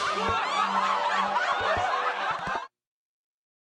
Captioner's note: laughter